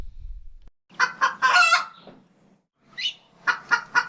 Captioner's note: rooster crows